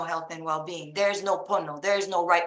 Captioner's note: speaking Hawaiian